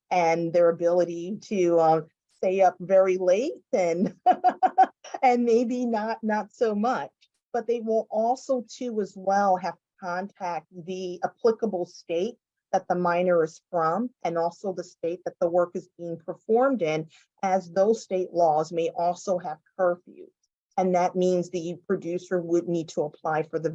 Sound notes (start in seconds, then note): 4.1 laughs